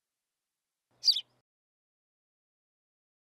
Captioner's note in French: chant d’oiseau